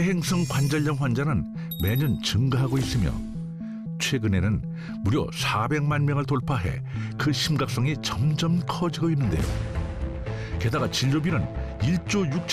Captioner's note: voiceover